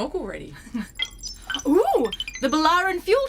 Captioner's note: A console bleeps